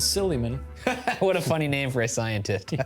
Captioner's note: laughs